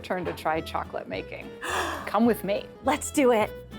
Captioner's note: gasps